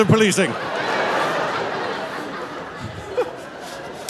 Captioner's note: audience laughing; laughing